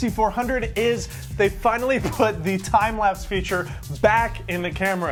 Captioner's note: laughs